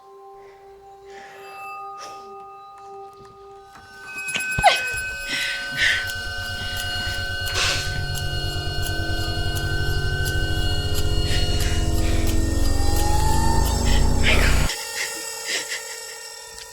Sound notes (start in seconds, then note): 4.6 Ally gasps; 5.1 suspenseful music